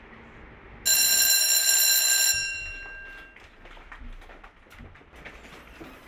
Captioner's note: silence; bell ringing; footsteps